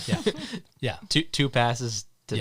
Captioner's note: both laughing